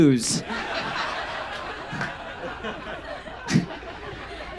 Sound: audience laughs

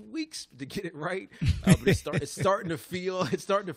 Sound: laughs

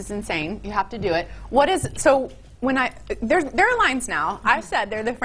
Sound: stutters

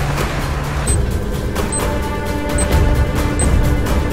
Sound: bomb beep

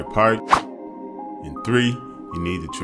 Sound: text whooshing

